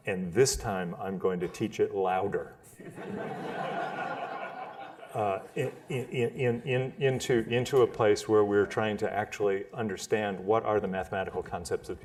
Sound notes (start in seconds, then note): 4.6 laughter